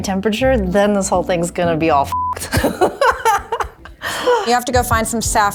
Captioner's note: laughs